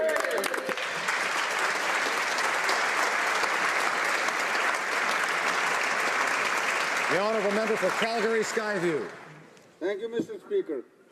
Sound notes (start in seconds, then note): 7.1 applause